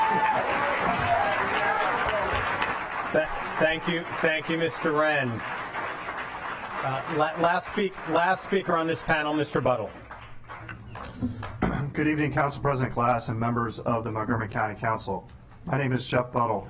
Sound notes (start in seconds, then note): 6.1 applause